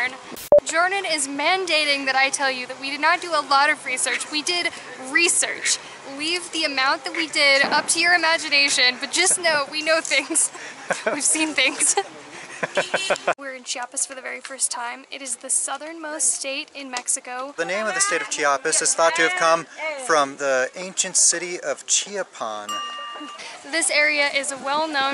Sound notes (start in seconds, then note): 12.3 laughter